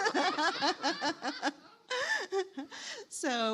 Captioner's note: all laughing